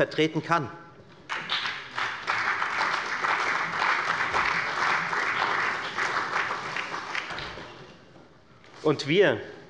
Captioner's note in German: Allgemeiner Beifall